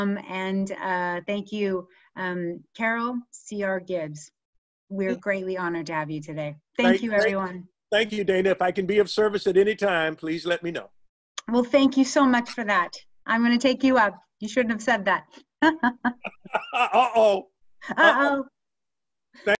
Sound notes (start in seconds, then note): 15.6 laughter